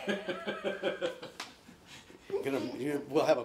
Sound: laughing

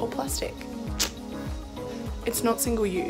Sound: clicks tongue

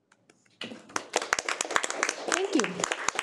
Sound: audience applauding

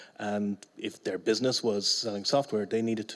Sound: none

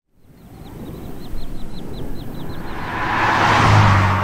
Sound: wind and vehicle sound

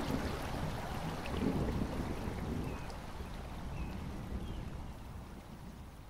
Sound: A mistle thrush calling as the thunder fades

